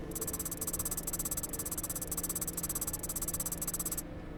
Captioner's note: keyboard tapping